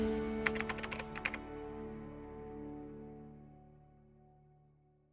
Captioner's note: typewriter keys clicking